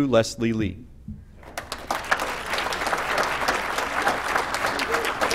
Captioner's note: applause